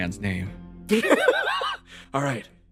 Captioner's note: laughs